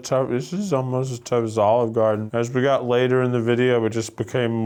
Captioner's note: none